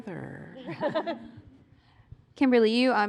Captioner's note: laughter